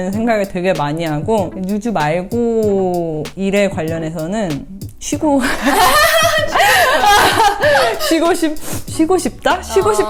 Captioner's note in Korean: 웃음